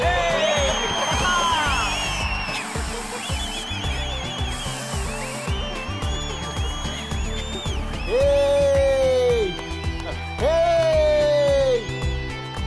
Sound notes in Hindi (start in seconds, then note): 2.1 तालियाँ